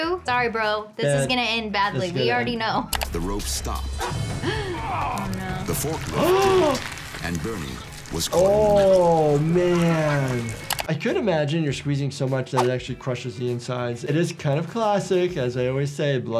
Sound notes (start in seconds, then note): 4.3 gasps; 4.6 worker groans